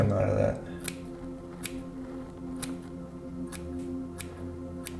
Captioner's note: scissors snipping